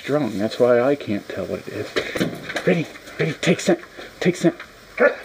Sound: whoof, whoof

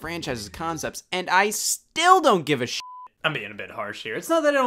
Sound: beep

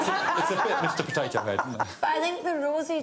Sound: laughter

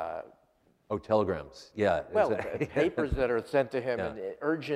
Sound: laughs

